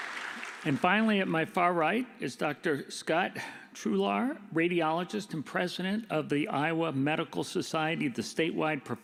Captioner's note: applause